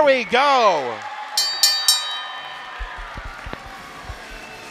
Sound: bell dinging

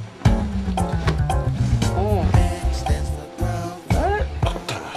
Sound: sheets rustling

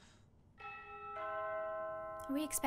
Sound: doorbell

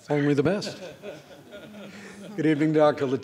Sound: laughing

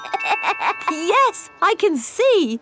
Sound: laughs

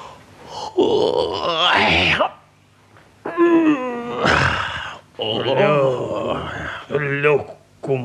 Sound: yawns

